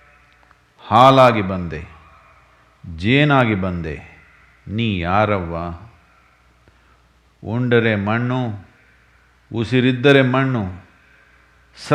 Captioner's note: speaks in Kannada – not transcribed